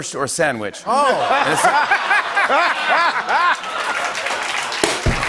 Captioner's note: laughter and applause; rimshot